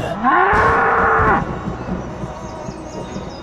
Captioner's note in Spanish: relámpago en el fondo, mugido de toro espectral